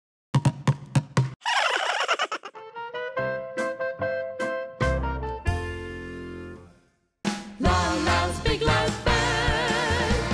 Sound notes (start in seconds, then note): 0.4 drum sound; 1.5 all giggle